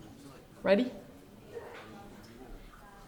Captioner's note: none